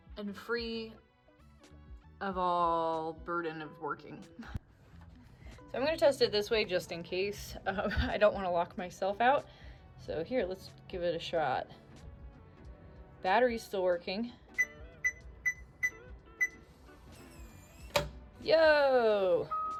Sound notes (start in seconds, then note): 3.5 chuckles; 15.4 buttons beeping; 17.0 Eufy lock whirs; 17.9 lock thuds